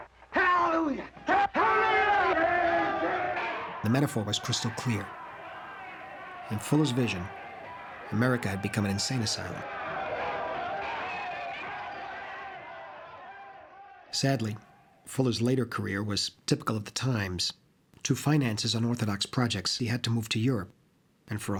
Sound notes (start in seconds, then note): 2.4 shouting; 10.6 shouting Continues